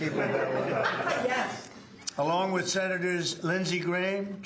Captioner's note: applause